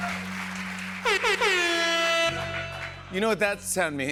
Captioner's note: air horn